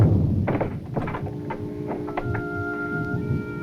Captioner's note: door locks; gentle music